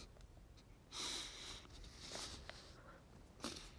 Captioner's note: breathing shakily